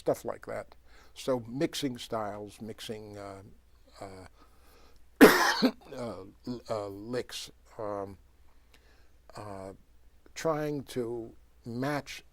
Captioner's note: coughs